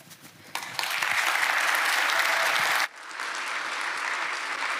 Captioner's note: applause